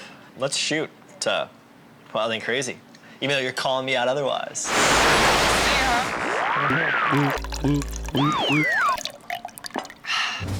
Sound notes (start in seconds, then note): 4.6 static crackling; 6.0 gulping